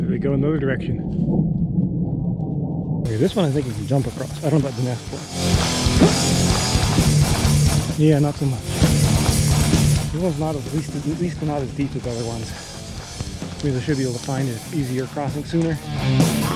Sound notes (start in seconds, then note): 2.2 plane engine roaring; 6.0 sighs